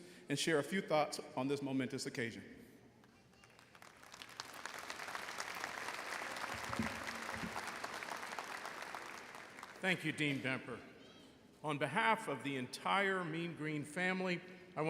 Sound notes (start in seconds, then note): 3.4 audience applauding